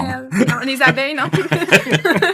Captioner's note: laughs